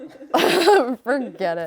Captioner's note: laughs